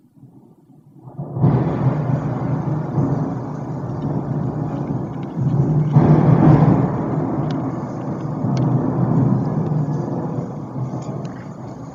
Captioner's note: thunder and lightinng